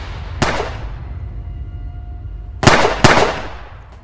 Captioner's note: gun shoots